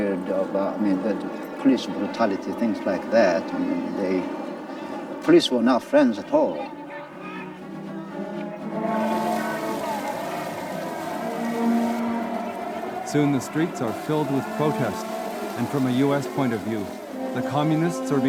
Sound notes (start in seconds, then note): 6.7 dramatic music; 6.7 people shouting; 9.0 water spraying